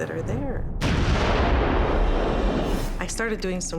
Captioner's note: gunshot reverberating